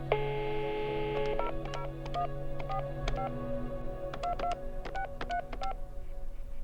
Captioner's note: dial tone, dial pad beeping